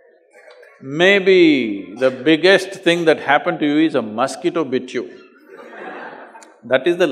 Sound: laughs; few Laugh

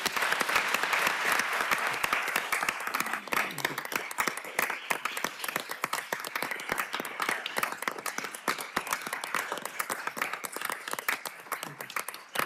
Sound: applause

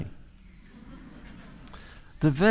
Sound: audience laughter

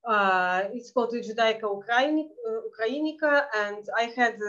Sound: speaking foreign language

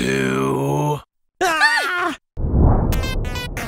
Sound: screams

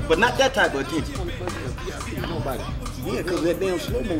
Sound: speaking away from mic

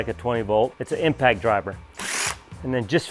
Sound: drill whirring

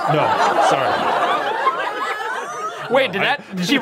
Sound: audience laughing

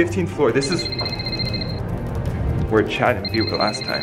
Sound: phone ringing

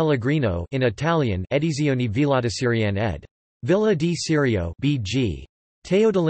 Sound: in Italian

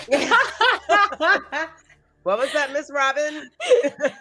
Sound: all laughing

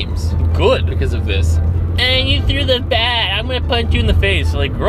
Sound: whining

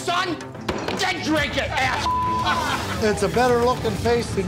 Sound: beep

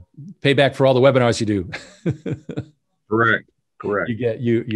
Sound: chuckles

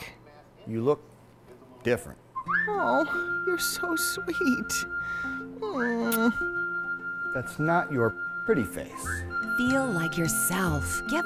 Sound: whistling

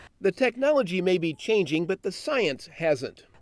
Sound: voiceover

